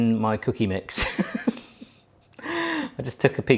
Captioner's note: laughing